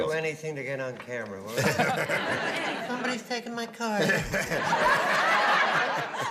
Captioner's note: laughter